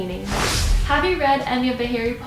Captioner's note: rush of air